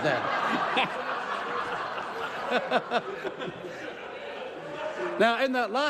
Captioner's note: laughter